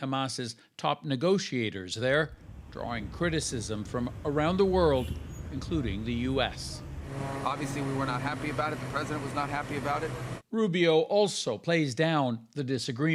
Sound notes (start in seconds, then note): none